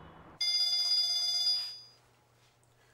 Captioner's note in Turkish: Telefon çalıyor